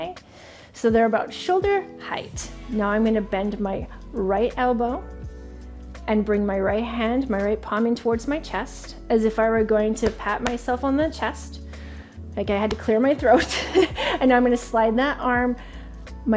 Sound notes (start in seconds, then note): 13.7 laughing